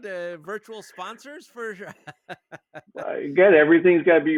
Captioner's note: laughing